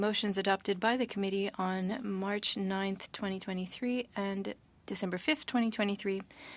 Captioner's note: speaking French